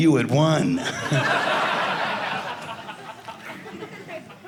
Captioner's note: audience laughing